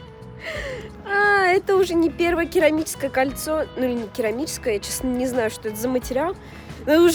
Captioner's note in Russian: вздох